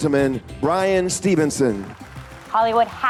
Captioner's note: applause